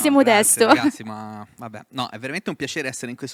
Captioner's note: laughing